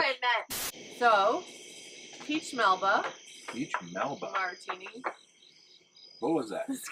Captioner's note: tapping noise